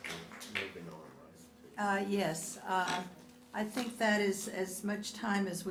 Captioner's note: applause